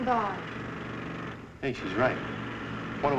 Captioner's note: machines whirring outside